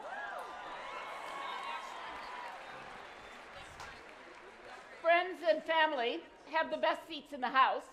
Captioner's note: applause